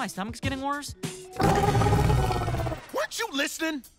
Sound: growling

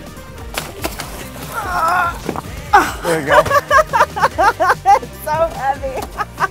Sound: struggles

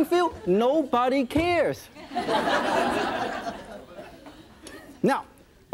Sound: audience laughing

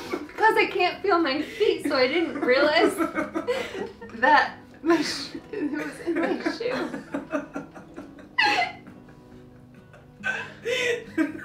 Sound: laughing

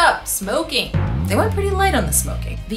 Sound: deep bellowing; swooshing

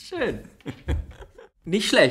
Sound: laughs

